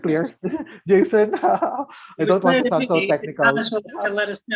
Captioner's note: laughs